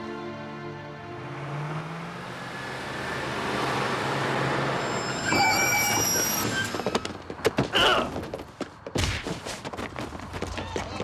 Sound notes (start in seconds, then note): 5.3 brakes squeal; 6.3 woman screams